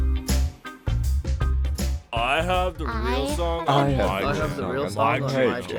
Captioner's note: many silly voices chime in, one after the other